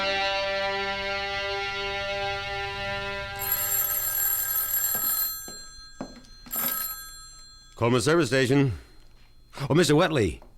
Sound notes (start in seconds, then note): 0.0 dramatic music playing; 3.3 telephone rings; 6.5 footsteps approaching